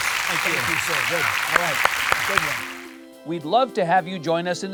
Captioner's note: audience applauding